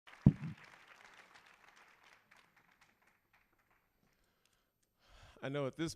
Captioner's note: applause